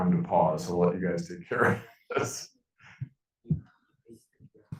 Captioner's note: chuckling